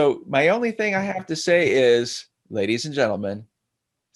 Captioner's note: laughs